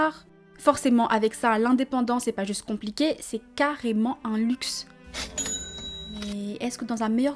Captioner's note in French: bruit de caisse